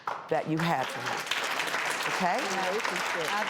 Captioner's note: audience applauding